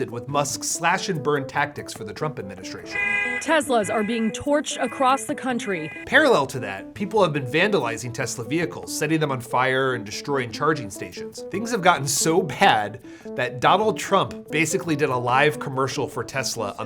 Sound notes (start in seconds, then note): 2.9 car alarm blaring